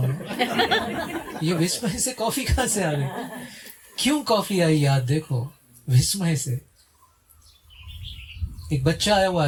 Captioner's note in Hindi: हंसी